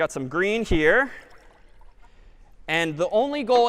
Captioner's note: water pouring